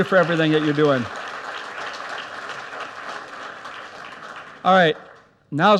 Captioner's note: audience applauds